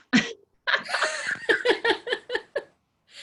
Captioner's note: laughing